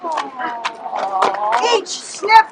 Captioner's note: audience: Awwww